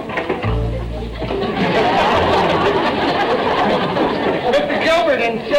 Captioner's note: audience laughter